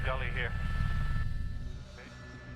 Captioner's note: voiceover